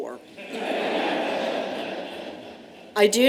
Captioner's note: laughter